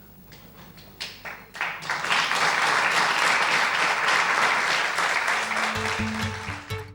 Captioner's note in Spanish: Aplausos